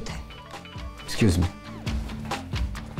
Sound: phone ringing

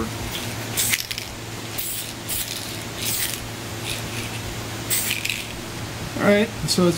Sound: spraying paint

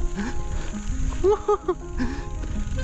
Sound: laughing

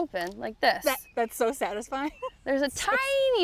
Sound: laughs

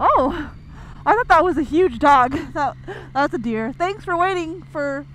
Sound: laughs

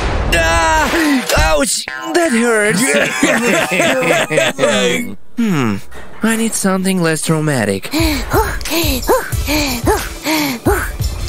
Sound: heavy breathing

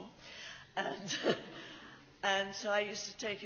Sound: laughs

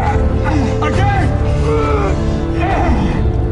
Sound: both grunting

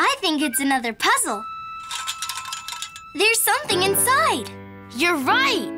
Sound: jangling noise

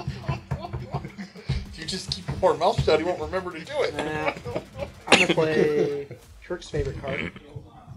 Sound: laughing

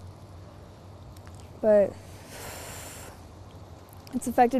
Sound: emotional exhale

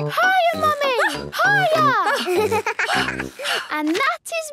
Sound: panting; giggles

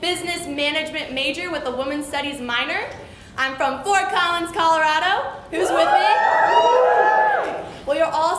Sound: cheers

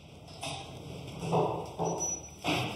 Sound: rattling in the background

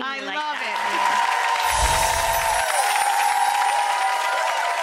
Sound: audience applauding

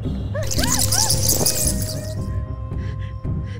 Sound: bats Screeching

